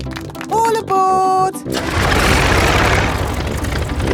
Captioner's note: plane engine starts